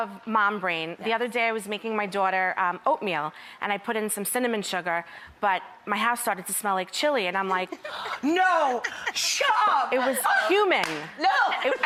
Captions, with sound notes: of mom brain, the other day I was making my daughter oatmeal, and I put in some cinnamon sugar, But my house started to smell like chili, and I'm like No! (laughs) Shut up! It was cumin. No!